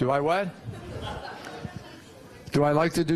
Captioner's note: laughter